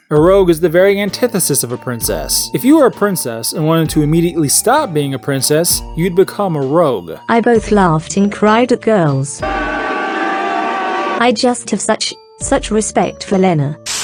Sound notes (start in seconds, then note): 9.7 man screaming in agony as he eats ass